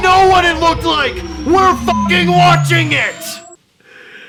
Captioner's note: beeping